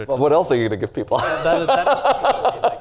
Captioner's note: laughs